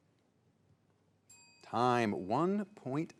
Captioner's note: bell rings